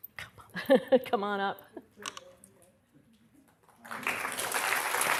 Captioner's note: applause